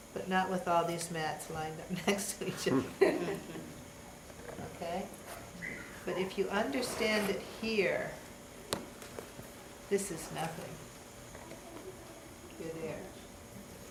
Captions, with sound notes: But, not with all these mats lined up next to each other. (all laugh) Okay? But, if you understand it here, this is nothing. You're there.